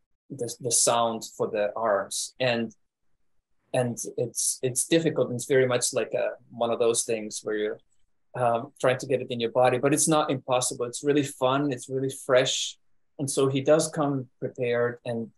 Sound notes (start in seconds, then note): none